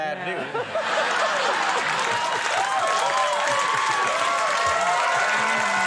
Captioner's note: audience laughing and cheering